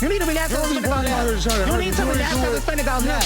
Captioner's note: people yelling at once